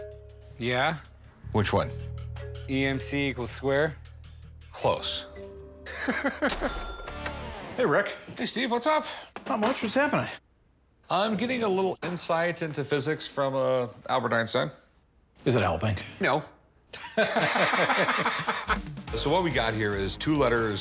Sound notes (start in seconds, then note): 5.9 laughs; 16.9 laughter